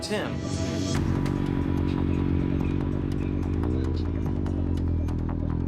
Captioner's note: motorcycle buzzing